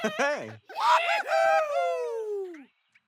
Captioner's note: cheering